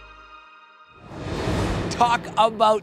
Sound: air whooshing

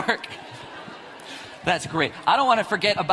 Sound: audience laughs

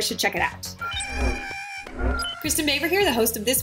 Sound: porg calling

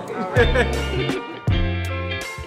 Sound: smooth music; laughter

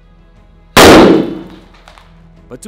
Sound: explosion

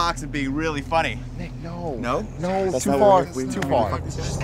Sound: quietly

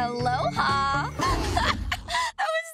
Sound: laughing

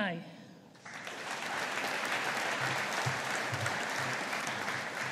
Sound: audience applauding

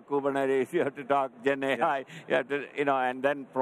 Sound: chuckles

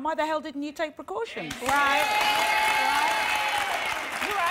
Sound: applause

